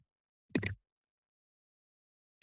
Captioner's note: microphone noise